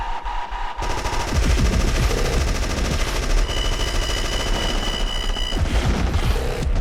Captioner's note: intense music; rapid gunfire